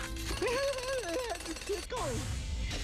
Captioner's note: booster laughs